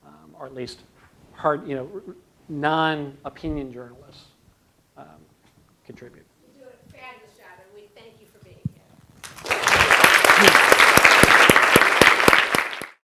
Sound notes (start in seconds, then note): 9.2 applause